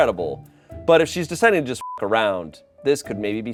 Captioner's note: beep